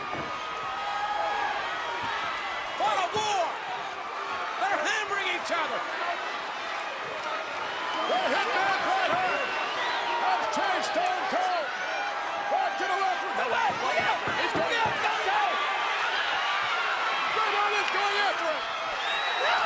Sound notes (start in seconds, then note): 0.4 applause; 6.7 applause